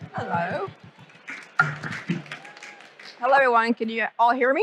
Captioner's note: audience applauding